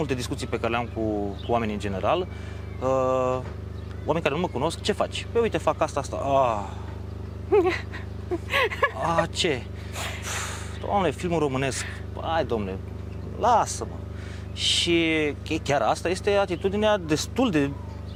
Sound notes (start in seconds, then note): 7.4 laughs